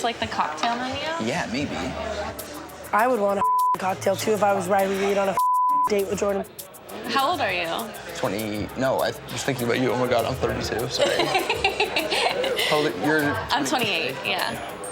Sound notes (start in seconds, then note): 10.5 laughing